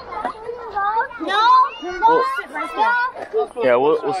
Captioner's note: children chatting